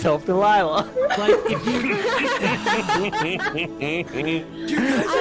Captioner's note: all still laughing